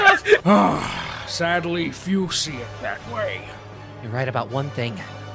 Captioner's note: sigh